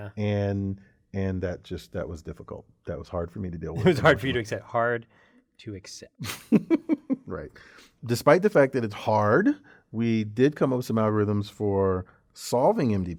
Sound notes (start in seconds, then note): 3.8 laugh; 6.1 laugh